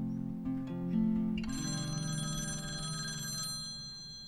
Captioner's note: phone rings